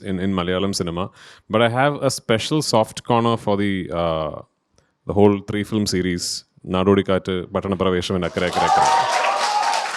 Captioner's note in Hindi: तालियां